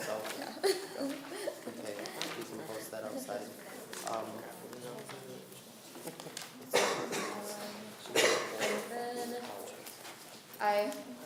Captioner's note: laughing